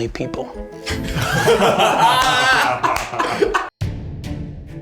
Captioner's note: all laugh